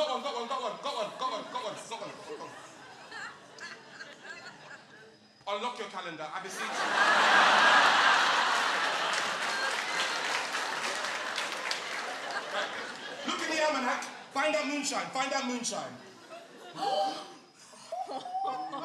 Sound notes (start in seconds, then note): 2.4 audience laughing; 6.5 laughter; 10.2 applause; 16.7 gasps